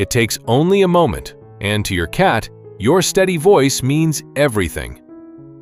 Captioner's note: thoughtful